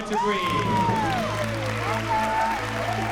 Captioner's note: cheering, whooping